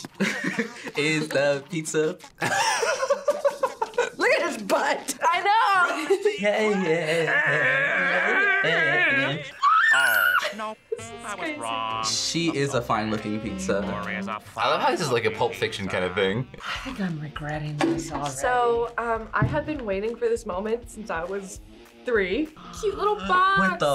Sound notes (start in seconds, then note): 0.0 laughs; 5.7 giggles; 6.4 all vocalizing; 9.6 squeals